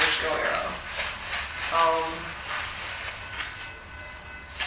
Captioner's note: paper rustling